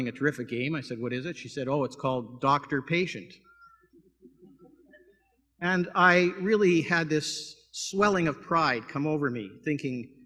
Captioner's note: laughter